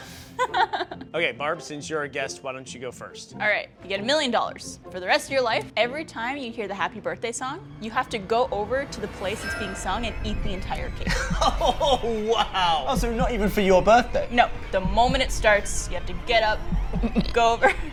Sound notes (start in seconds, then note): 0.1 laughs; 11.1 laughs